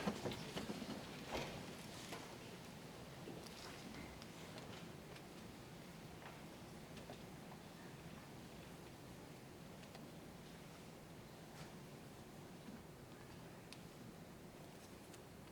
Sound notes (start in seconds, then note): none